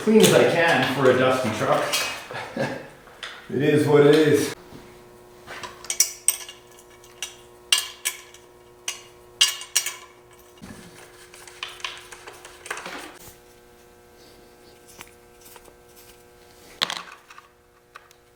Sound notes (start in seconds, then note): 2.1 chuckles; 6.3 clanking